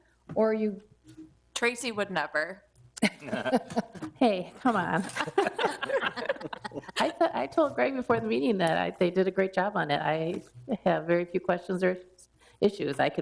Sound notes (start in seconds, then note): 3.0 people laughing; 4.7 laughing